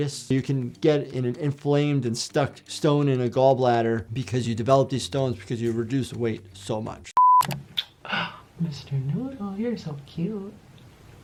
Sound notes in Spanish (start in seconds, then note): 7.1 pitidos; 7.7 chasqueando los labios